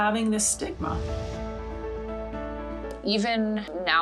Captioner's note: swoosh